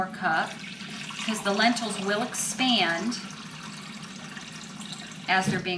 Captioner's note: water gurgling